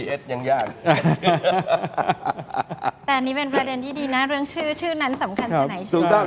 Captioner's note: laughs